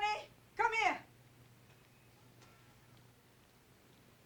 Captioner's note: italian